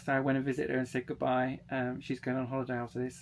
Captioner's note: none